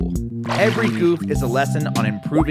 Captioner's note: water splashes